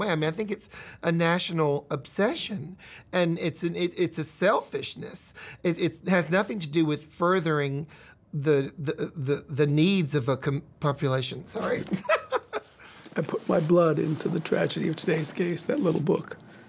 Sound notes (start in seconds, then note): 11.7 laughs